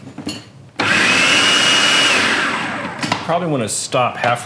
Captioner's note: whirring